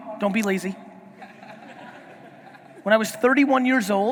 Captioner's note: audience laughing